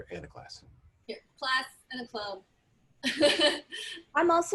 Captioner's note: laughter